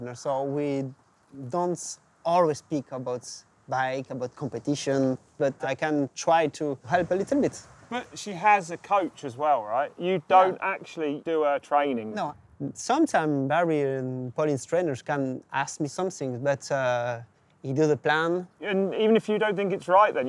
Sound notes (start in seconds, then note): none